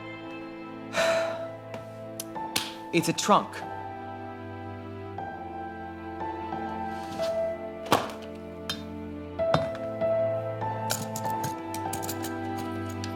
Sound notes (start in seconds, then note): 0.9 sighs; 10.9 fiddling with lock